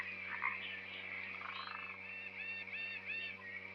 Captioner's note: frogs croaking